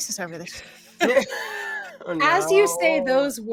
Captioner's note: all laughing